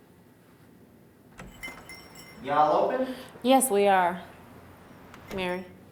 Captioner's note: bell rings